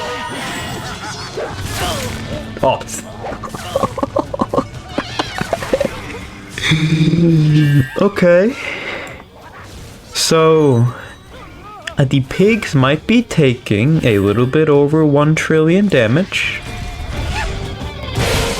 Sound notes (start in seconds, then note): 3.1 laughs to myself; 6.6 inhales Oxygen